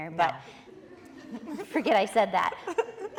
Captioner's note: audience laughing